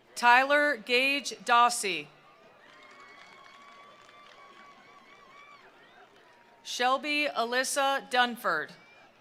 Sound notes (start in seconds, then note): 2.1 attendees cheering; 2.3 attendees applauding; 8.6 attendees cheering; 9.0 attendees applauding